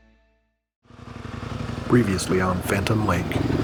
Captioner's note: bike engines whirring